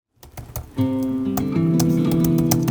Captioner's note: computer typing